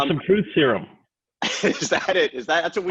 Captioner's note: laughing